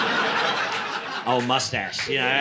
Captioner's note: laughter